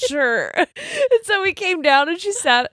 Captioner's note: both laughing